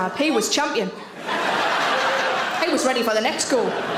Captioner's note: audience laughs